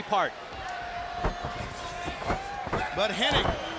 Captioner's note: crowd chatter